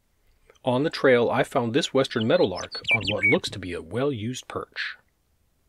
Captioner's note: western Meadowlark Bird Call